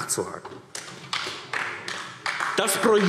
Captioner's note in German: Beifall AfD